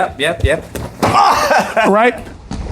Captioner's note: kick thumps; chuckles